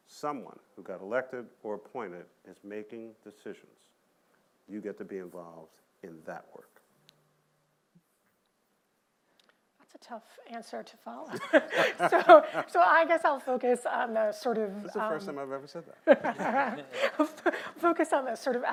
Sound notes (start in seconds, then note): 11.3 laughter